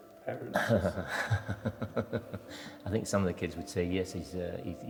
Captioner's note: laughs